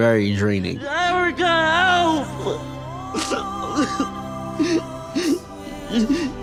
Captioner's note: sobbing